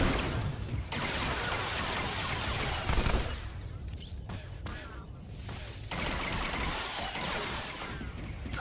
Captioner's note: gun firing; gun firing